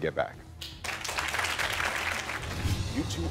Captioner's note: audience applauding